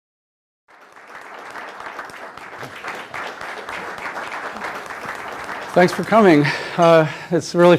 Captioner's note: applause